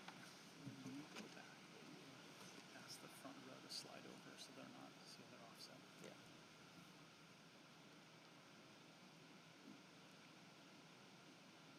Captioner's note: applause